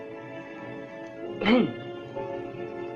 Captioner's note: clears throat